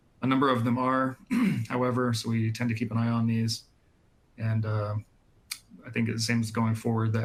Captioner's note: clears throat and cough